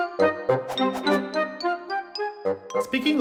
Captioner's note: slow playful music; whooshing; slow playful music